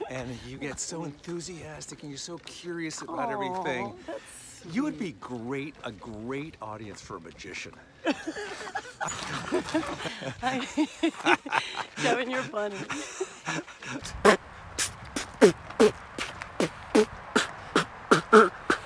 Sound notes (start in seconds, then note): 8.0 laughs; 12.7 Kevin laughs; 14.6 beatboxing